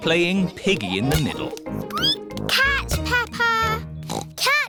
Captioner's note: squeaks; oinks